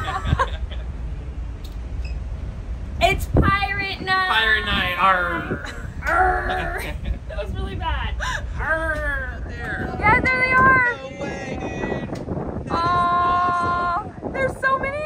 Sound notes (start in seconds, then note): 0.0 laugh; 7.9 laughing